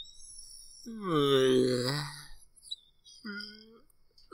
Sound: yawns

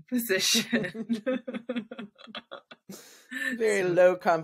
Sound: laughs

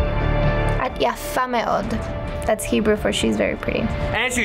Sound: speaks Hebrew

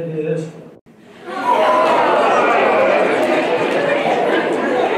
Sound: audience reacts

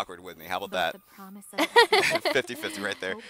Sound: hearty laughter

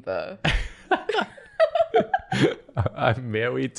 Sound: laughter

